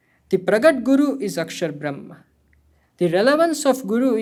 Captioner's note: hindi